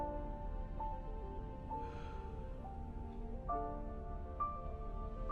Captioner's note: soft breathing